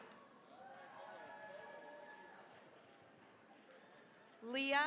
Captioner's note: cheering, applause